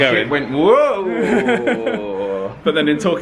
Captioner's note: laughs